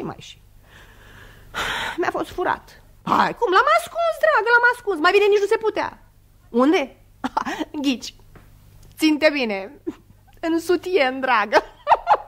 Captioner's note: laughs